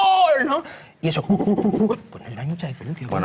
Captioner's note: imitates excited primate